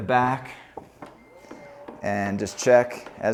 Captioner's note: rear hatch whirs; rear hatch beeps